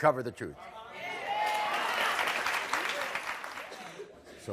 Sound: audience cheers

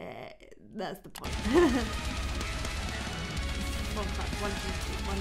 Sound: laughs

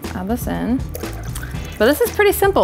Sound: pouring water

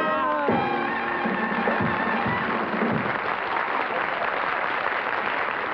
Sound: singing; applause

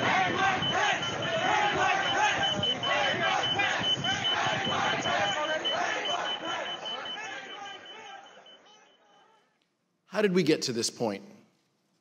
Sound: chanting "hang mike pence!"

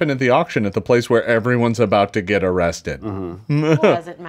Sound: laughs

